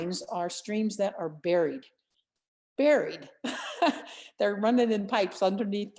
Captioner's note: laughter